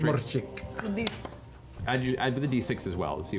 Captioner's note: accented